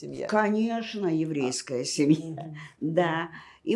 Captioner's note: laughing